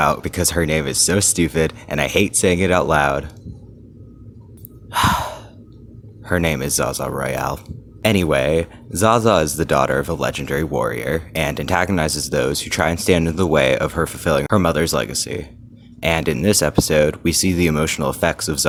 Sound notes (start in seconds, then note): 4.9 defeated sigh